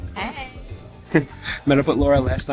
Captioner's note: laughs